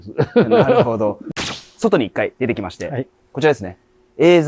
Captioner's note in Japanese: 笑い